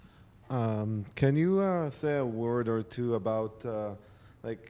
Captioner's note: voiceover